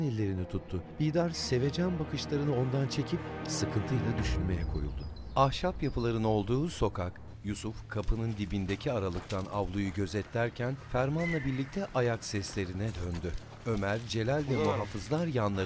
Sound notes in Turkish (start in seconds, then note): 4.3 Kuş cıvıltısı sesi; 7.2 Ayak sesi; 8.3 Martı sesi